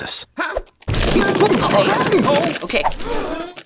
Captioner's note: objects clattering; Thomas grunting; crowd gasping